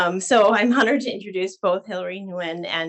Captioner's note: none